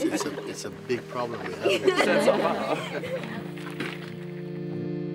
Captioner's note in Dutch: gelach; gelach